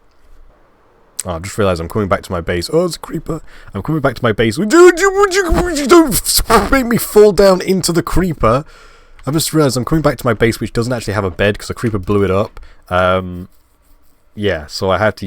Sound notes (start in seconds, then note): 4.6 scared Noises